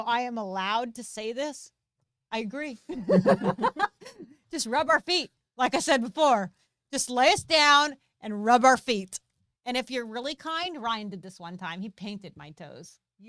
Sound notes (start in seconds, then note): 2.9 both laughing